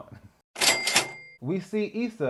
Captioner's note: cha-Ching